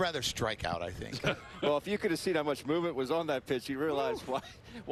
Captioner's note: laughter